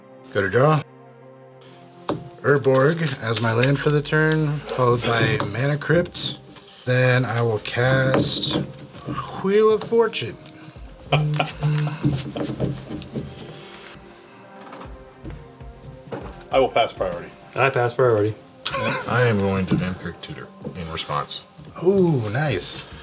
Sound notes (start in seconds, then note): 14.2 chuckles